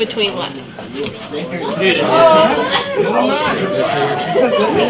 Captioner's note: chatter